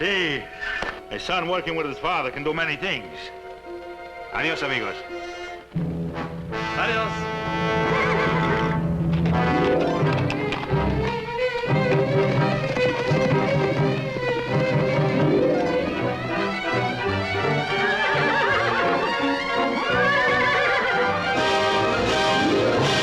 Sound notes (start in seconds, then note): 18.3 whinnying